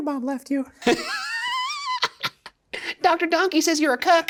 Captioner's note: Shane and Ryan laughing